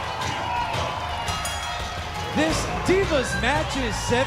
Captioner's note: bell ringing